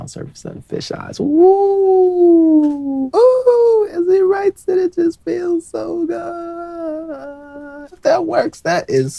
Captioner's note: excitedly